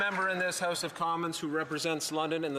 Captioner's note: some Applause